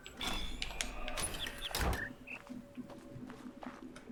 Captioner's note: bird chirps ˥ ˥ ˩ ˧